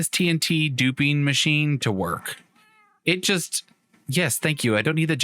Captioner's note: cat meows